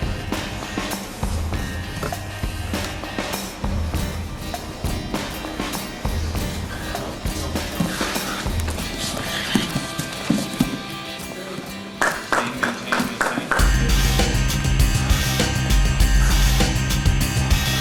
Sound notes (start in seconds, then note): 12.0 audience applauding; 14.7 rock music